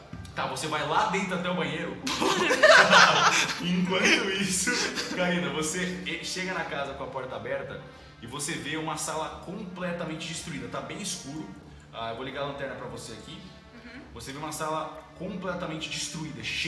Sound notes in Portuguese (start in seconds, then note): 2.0 Risadas